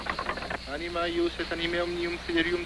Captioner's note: chanting